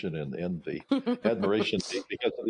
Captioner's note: laughing